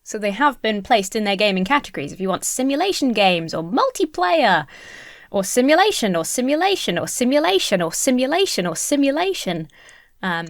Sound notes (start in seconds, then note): none